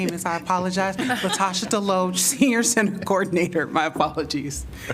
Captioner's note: laughter